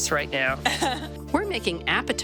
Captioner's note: laughing